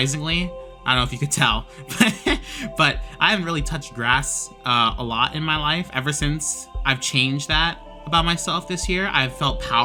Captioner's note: haha